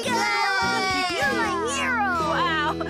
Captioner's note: All Cheering Lofty